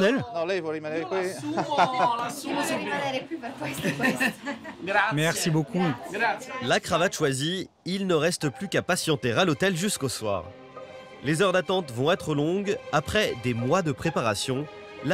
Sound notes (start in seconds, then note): 0.3 speaks in Italian